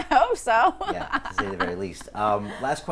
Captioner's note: laughing